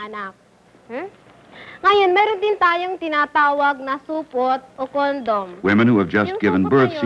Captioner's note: non-English speech